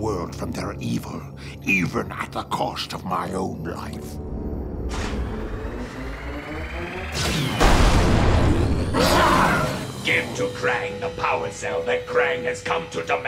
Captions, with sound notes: from their evil, even at the cost of my own life. [exploding] [roaring] Give to Kraang the power cell that Kraang has come to demand